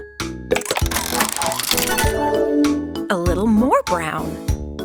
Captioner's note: mechanical whirring